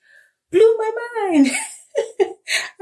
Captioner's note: laughs